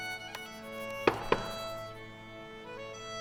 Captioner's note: knock on door